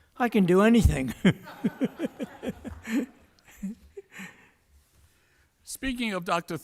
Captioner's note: laughter